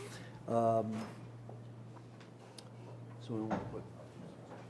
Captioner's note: talking off microphone